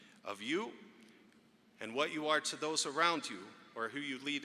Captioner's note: none